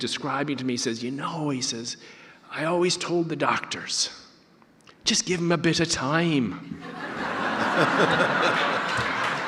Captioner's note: audience laughter